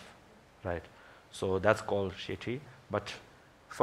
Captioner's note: foreign language